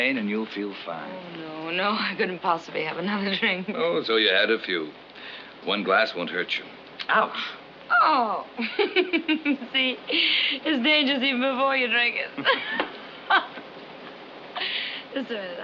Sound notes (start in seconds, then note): 8.5 laughs; 12.4 both laugh